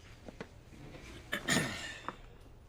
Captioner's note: clears his throat